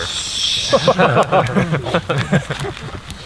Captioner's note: all laugh